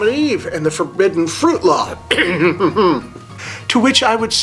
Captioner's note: coughs throat